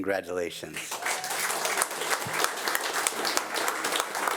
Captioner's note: audience applauding